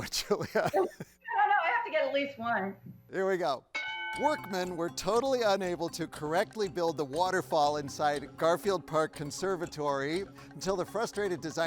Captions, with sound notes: - I don't know, I have to get at least one. - Here we go. (bell dings) Workmen were totally unable to correctly build the waterfall inside Garfield Park Conservatory, until the frustrated designer, Jens Jensen,